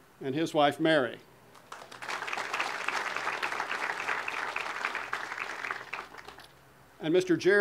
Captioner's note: audience applause